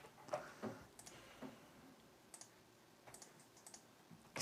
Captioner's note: mouse clicking